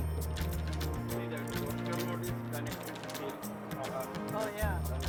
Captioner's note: chatter